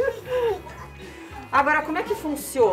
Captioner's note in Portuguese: risos